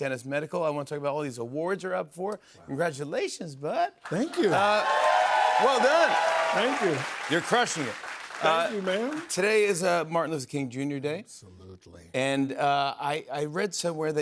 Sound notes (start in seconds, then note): 4.1 cheers and applause